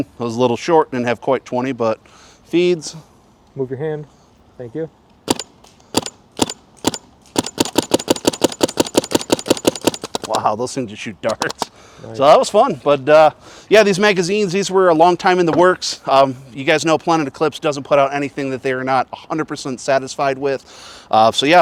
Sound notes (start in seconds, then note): 5.3 paintballs ricocheting